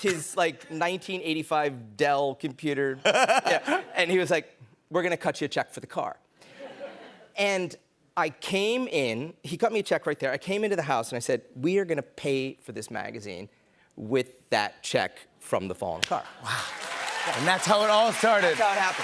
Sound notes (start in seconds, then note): 3.0 laughter; 16.4 cheers and applause